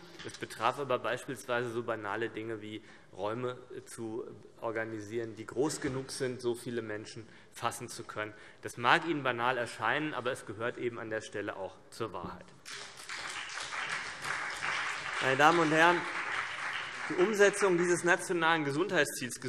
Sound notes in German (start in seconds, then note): 12.6 Beifall CDU und BÜNDNIS 90/DIE GRÜNEN